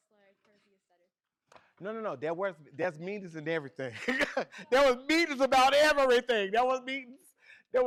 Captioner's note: laughs